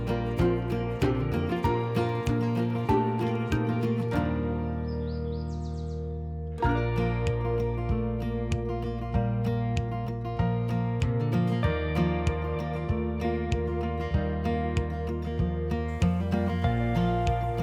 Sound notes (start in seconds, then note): 4.8 birds chirping; 6.7 gentle guitar and piano music